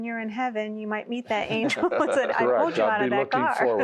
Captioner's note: laughter